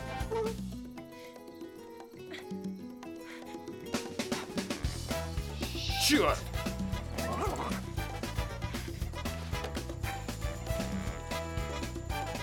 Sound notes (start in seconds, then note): 0.2 whimpers; 1.2 breathing heavily; 6.6 panting; 6.8 growling